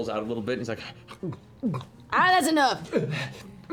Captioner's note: gulping